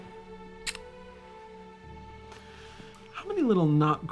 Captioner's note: gentle music continues; lips puckering